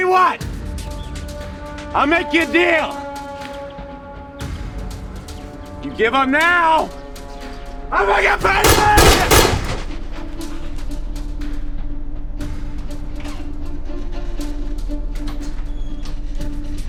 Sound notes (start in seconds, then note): 8.4 gun firing; 10.7 suspenseful music